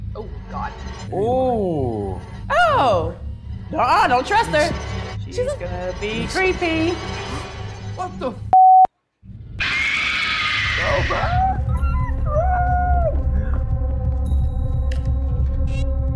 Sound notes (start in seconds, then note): 8.5 beeps; 9.6 screams